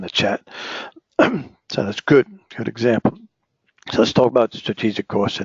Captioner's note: cough